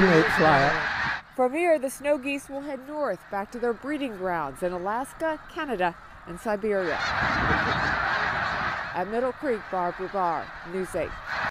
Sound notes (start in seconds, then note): 6.2 loud honking